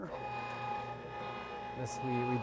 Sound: machine roaring

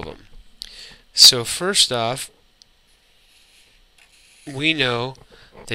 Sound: 2 second pause

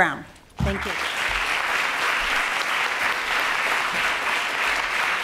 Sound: applause

